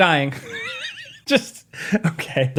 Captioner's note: laughing